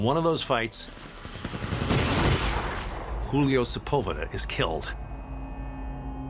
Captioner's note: gunfire blasting